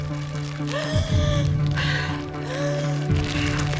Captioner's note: gasps